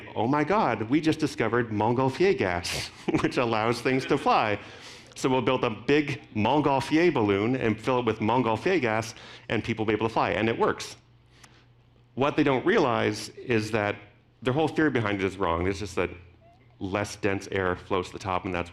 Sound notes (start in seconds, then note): 2.6 laughing